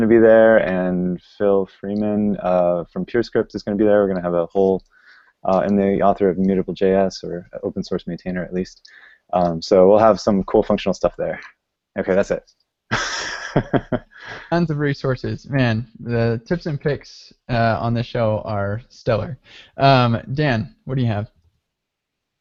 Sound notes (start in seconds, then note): 12.9 laughing